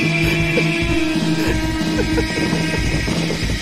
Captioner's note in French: rires du cameraman